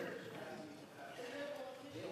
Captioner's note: speaking FRENCH